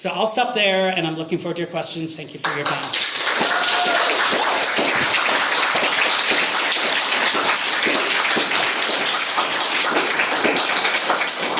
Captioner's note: applause